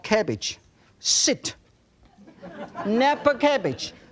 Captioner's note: crowd laughs